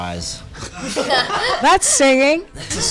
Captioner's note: all laughing